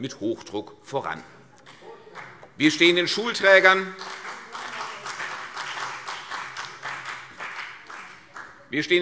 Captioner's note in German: Beifall CDU und BÜNDNIS 90/DIE GRÜNEN - Zurufe